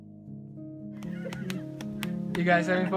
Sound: hands patting

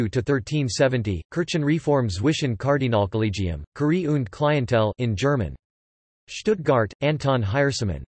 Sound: in German

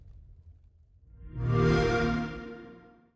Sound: xbox sound

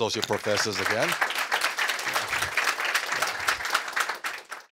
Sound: applause

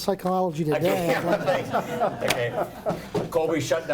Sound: laughing

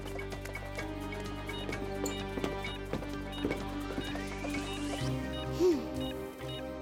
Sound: suspenseful music; beeping

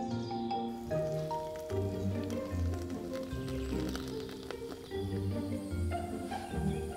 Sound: tea pours

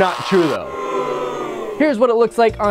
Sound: crowd boos

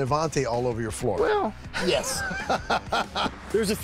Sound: laughs

